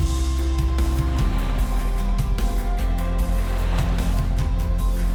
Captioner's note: waves crashing